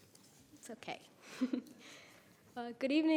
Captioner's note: giggles